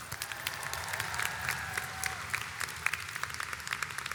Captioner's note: audience applauds